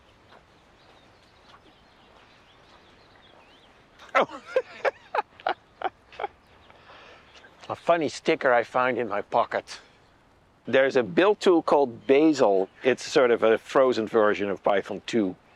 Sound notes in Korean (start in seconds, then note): 4.0 웃음